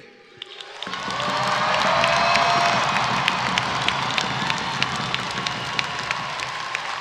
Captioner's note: rhythmic percussion music; audience cheering